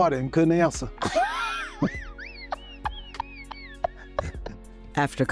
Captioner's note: laughing